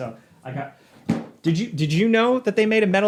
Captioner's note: box thudding